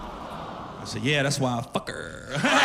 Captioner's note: audience awws